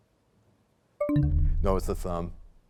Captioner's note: bell chimes, time expires